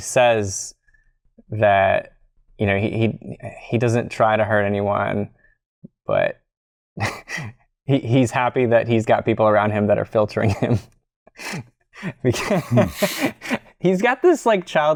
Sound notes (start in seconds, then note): 12.9 laughter